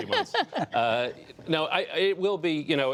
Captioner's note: laughter